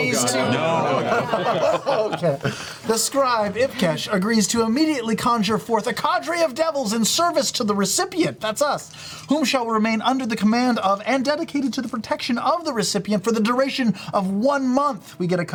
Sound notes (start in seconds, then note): 2.6 laughs; 3.0 normal voice